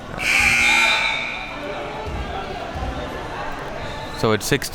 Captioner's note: buzzer blaring